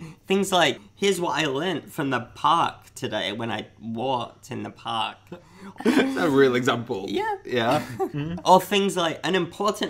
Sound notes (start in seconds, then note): 5.7 laughs